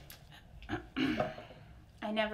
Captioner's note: clears throat